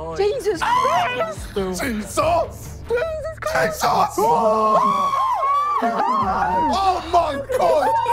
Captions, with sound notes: Jesus Christ! - Jesus! - Jesus Christ. - Jesus! [screaming] Oh my God!